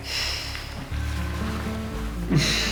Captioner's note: sighs